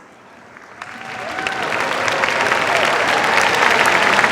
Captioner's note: cheers, applause